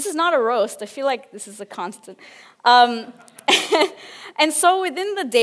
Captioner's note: laughs